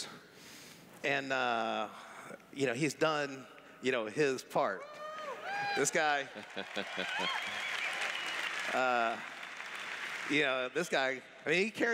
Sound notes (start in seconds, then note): 4.8 cheers; 6.3 laughs